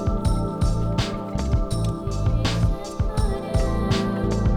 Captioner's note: crossmember rattles and clicks